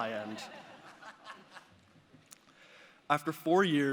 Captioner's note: audience laughing